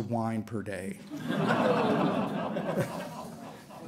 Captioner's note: laughter